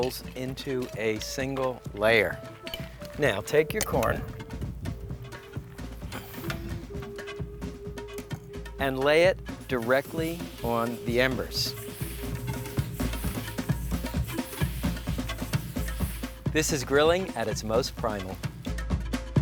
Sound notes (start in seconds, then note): 11.8 fire sizzling